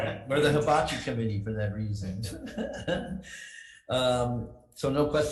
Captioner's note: laughs